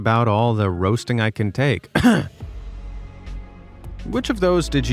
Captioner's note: coughs